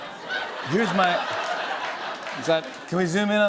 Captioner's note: laughter